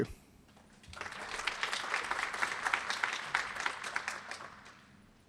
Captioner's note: applause